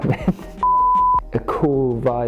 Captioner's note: laughs; beep